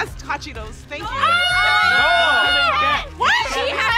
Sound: all screaming

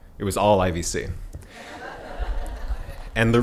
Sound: laughing

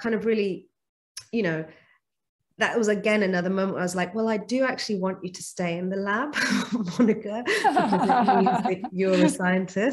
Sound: laughs

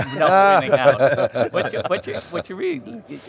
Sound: laughs

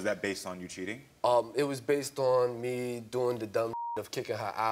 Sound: beep

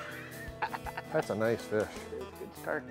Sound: laughter

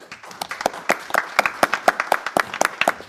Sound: applause

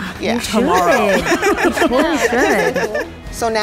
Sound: laughing

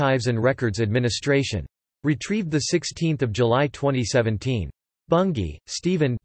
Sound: in German

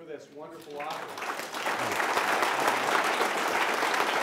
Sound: laughter

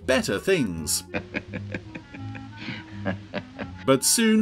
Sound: Diamond laughs loudly

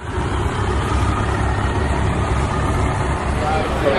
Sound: engine rumbling

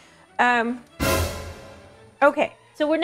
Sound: dramatic sound

